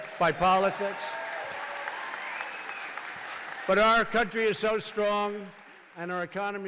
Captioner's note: applause